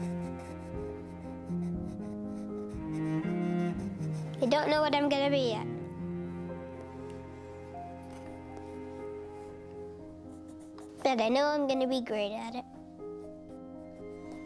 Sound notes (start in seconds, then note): none